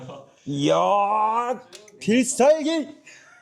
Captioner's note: embarrassed noise